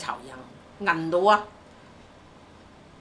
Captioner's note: Cantonese